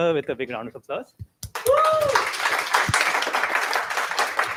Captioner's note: applause